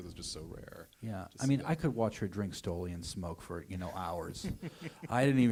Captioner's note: laughter